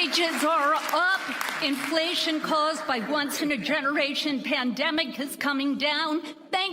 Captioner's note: applause